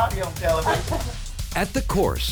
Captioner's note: l lauaughghs s